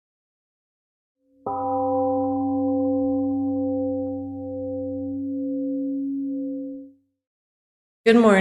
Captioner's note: temple gong rings and fades